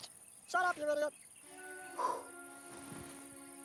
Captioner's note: trilling